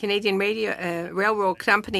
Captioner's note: speaking French